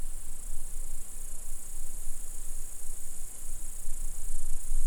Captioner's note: insects chirping